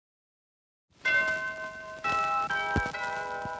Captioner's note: bell tolling